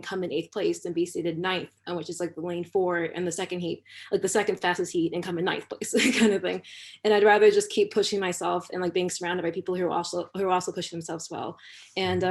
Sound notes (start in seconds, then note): 6.2 laughter